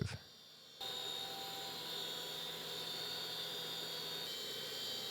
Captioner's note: machinery whirring